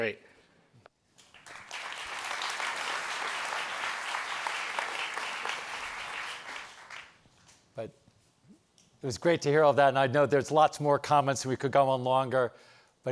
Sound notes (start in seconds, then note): 1.2 audience applauds